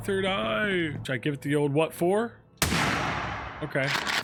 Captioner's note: gun fires